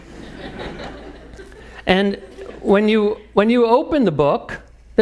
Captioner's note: laugh